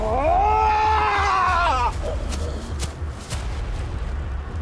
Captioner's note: Malkam screaming; intense music